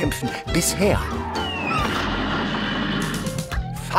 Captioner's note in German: Fallende Geräusche, Aufprall